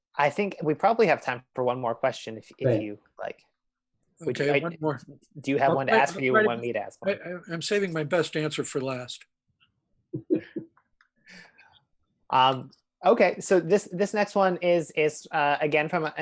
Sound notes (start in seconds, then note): 10.2 laughs